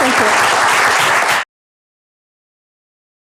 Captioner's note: applause